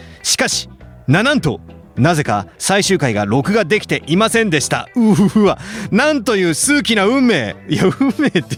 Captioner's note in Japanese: 笑い